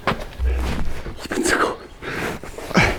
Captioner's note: Flüstert